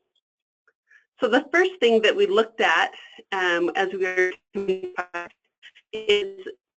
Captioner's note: static